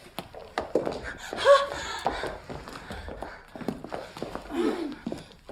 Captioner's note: heavy breathing